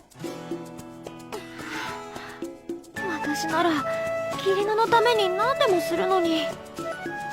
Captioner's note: sniff